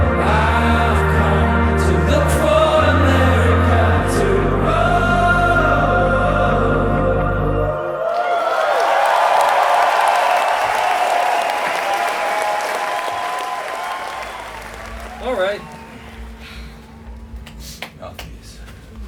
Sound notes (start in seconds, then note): 8.1 audience claps